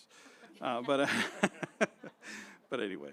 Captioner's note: laughter